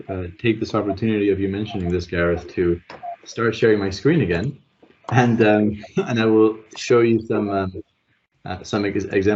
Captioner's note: chuckle